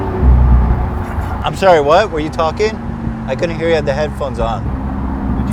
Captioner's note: Tai chuckles